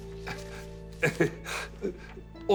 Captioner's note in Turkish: Gülme sesi